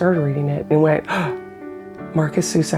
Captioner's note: gasp